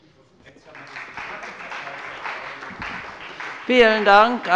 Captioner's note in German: Beifall bei dem BÜNDNIS 90/DIE GRÜNEN und der CDU